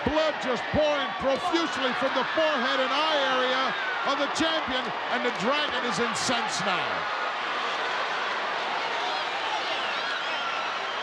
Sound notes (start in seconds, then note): 7.0 crowd yelling